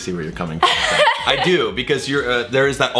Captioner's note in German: lacht